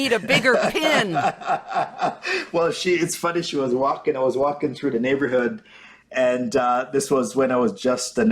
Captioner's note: laughs